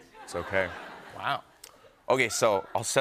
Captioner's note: laughter